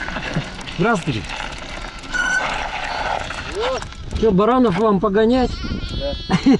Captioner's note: laughing